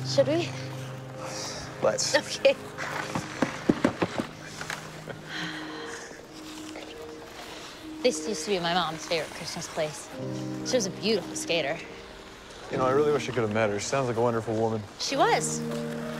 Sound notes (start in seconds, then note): 2.8 feet thudding; 5.7 light music